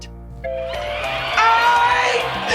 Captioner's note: audience cheering